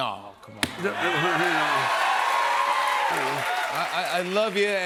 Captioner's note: cheers and applause